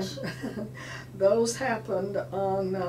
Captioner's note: laughing